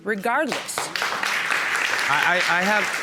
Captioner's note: audience applauding